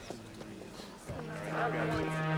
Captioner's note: police radio chatter